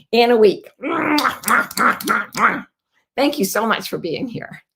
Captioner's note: lips smacking